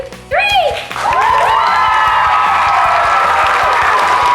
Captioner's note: applause, cheering